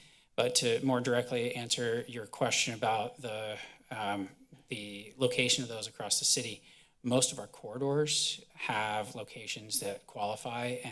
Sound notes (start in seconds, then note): none